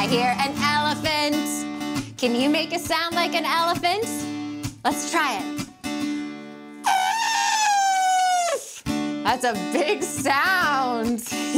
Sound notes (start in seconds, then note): 6.8 trumpeting